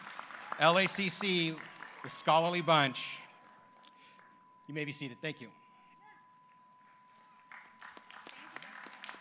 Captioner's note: applause